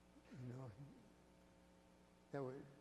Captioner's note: chuckles